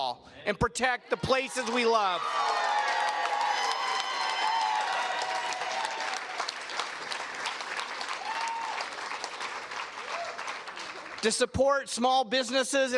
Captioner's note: cheers and Applause